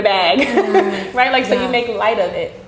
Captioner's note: laughing